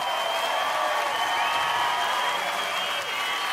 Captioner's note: audience cheering